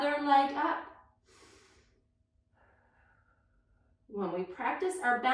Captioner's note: breathing deeply